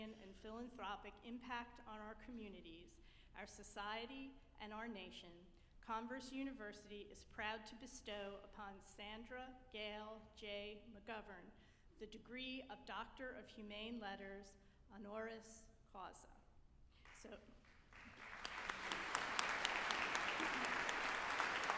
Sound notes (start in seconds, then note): 17.6 group applauding